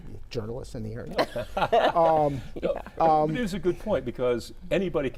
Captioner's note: laugh